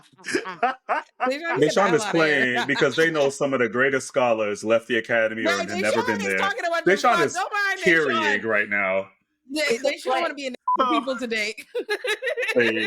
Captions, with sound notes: Deshaun is playing because they know some of the greatest scholars left the academy and have never been there. Deshaun is carrying right now. Yeah, Deshaun want to be an (beep) with people today.